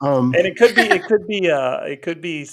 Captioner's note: laughing